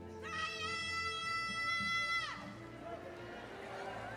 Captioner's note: crowd cheering